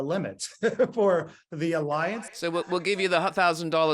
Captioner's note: chuckles